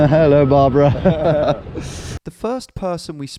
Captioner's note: both chuckle